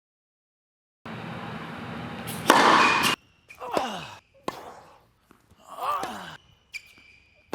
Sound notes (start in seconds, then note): 2.1 ball slamming into racket; 3.6 grunting